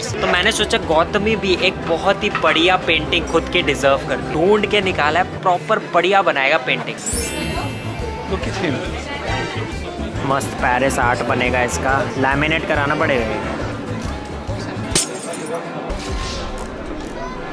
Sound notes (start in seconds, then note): 14.9 glass shatters